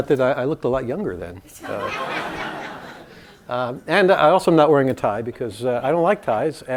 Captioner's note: laugh